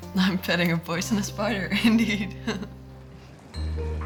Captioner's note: laughing